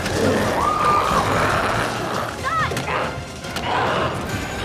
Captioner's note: group screaming